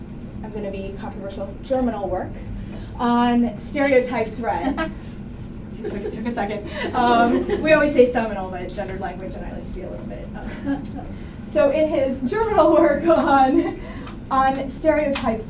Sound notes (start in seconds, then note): 5.8 laughter